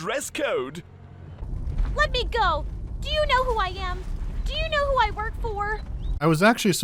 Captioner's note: William sounds fittingly cartoonishly arrogant; Jewel sounds more whiny than annoyed or infuriated